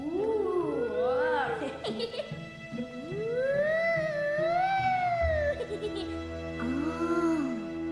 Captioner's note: children imitating ghosts moaning, laughing; continues imitating ghostly moaning